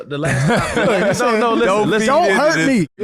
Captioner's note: all laughing